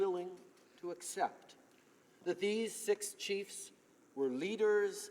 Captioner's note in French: voix de l'interprte